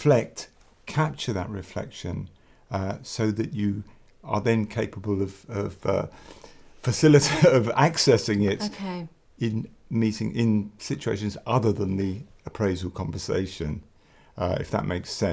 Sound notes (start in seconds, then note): 7.0 laugh